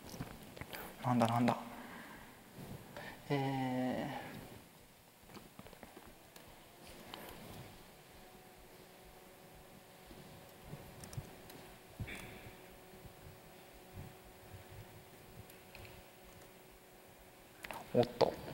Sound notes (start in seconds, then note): 4.6 pause